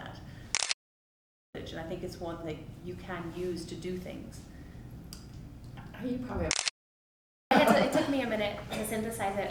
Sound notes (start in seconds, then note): 0.5 camera clicks; 4.3 camera clicks